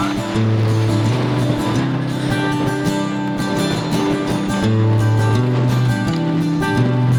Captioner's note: wind whooshing; soft guitar music